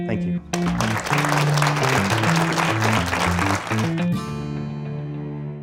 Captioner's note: uplifting music; applause